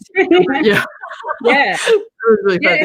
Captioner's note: laughs